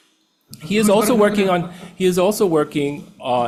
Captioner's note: attendees laughing